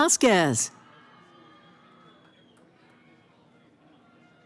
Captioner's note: cheering